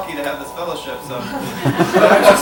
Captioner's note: laughter